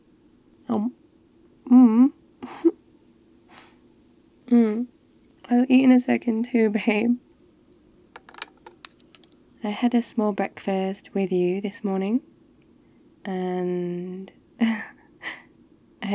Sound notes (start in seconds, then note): 1.7 nom; 2.4 laughs; 14.5 laughs